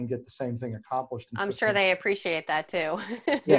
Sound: laughs

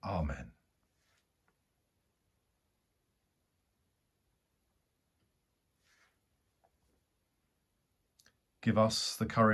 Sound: silence

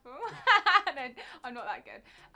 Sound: laughs

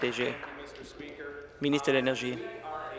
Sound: applause

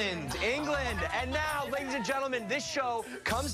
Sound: laughter

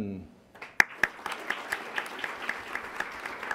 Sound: applause

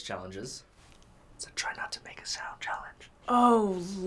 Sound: whispers

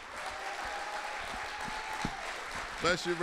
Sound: audience applauding

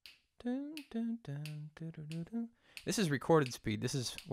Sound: hums the rhythm

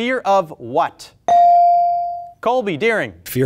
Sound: buzzer pings

